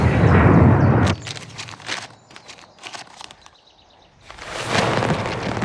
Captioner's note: paper rustling